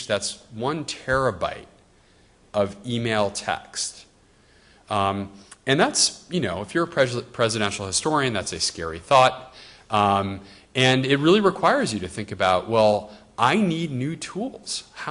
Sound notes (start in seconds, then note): none